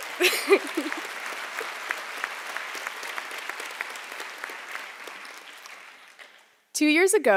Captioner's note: applause